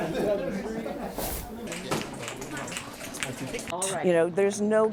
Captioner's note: indistinct chatter